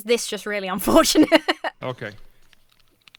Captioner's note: laughs